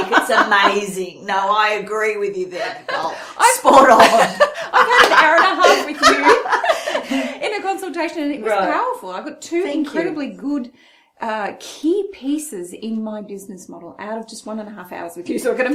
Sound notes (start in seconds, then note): 0.0 laughs; 2.5 laughs